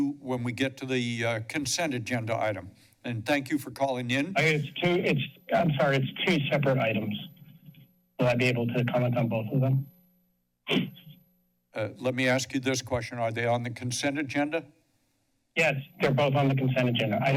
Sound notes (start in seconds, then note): 10.7 clears throat